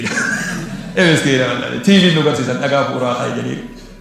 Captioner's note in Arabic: ضحك